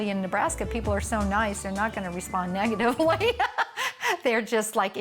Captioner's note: laughs